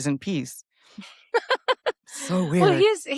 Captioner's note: laughs